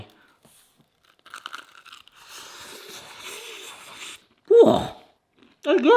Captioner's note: pie crunches